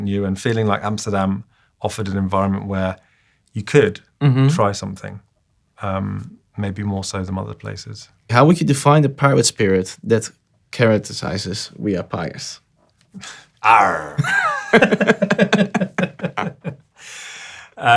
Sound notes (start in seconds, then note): 13.6 groans; 14.0 both laughing